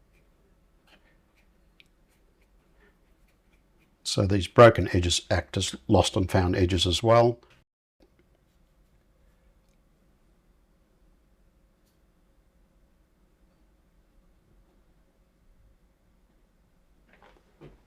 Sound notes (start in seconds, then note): 8.0 silence